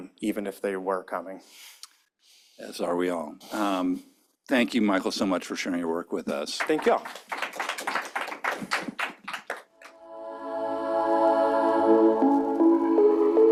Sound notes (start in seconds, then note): 8.1 applause; 9.9 audio logo